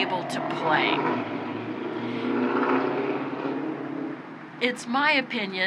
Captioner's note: vehicle revving